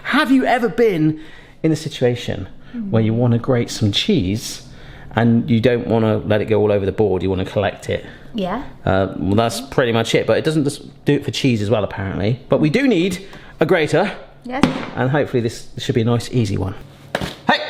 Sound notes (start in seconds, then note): 14.5 grater thuds